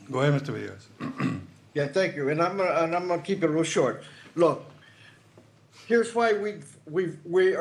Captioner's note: clears throat